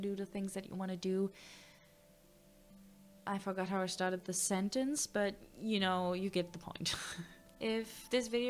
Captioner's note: confused inhale